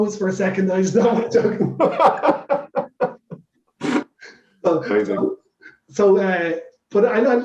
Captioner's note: laughs